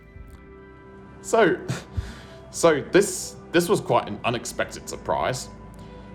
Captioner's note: scoffs